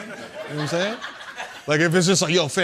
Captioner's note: laughter